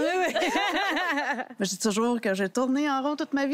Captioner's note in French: rires